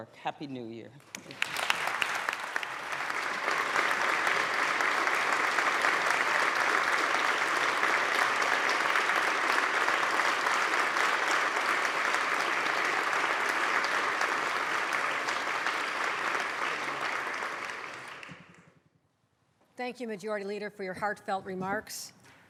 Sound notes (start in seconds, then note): 4.1 applause